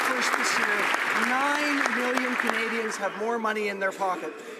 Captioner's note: some Applause